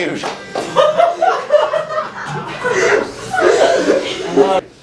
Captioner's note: laughter